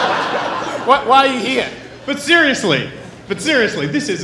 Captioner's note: laughing